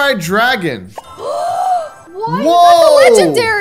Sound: gasps

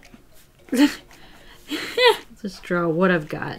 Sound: laughs

